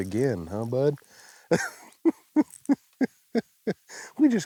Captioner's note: laughing